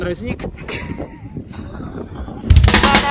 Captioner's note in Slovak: smiech; ba-dum-tss